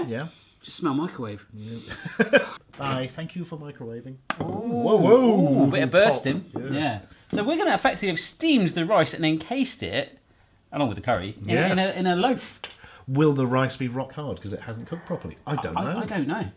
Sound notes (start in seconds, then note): 1.9 laughing